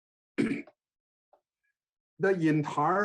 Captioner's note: clearing throat